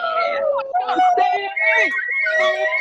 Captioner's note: attendees cheering